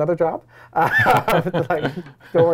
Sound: both laughing

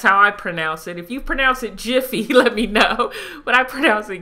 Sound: laughing

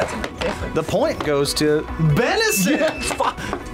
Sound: laughs

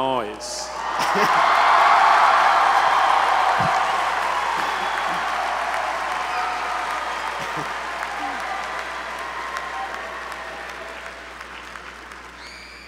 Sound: applause

